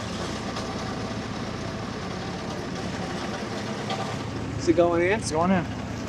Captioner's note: skid steer rumbling